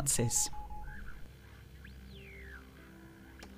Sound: radio static

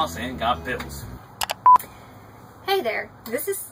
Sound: beeping

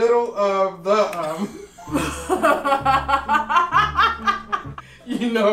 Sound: both laughing

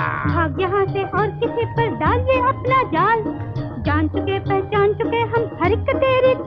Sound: none

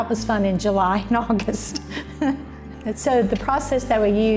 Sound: laughter

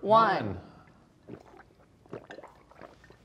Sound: drinking

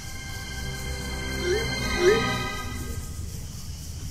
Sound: message sent sound

